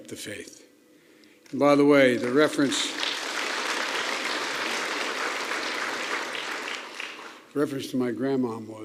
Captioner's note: applause